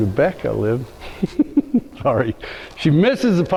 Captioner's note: laughs